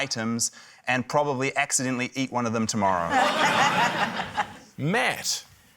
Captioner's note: laughter